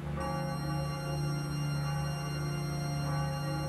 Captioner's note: tolling of steeple bells